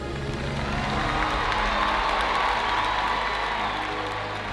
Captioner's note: audience applauding